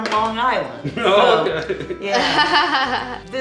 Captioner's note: laughing